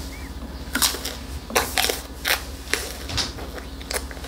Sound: crunch crunch crunch

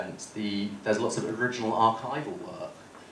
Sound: none

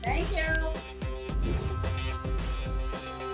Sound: whoosh

